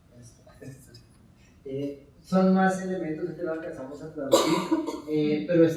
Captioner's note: speaking in Spanish